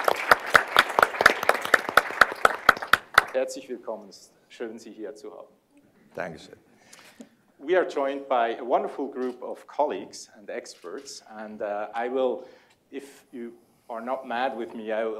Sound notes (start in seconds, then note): 3.8 speaking german